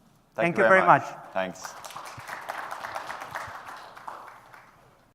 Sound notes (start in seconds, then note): 1.4 applause